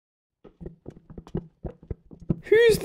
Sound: footsteps

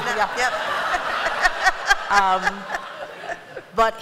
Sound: laughter

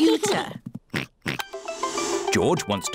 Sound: oinks

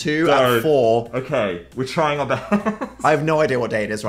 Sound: laughs

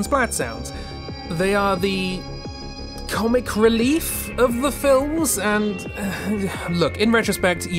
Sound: another exasperated sigh

